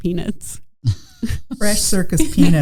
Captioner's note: chuckling